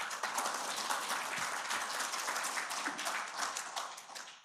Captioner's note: attendees applauding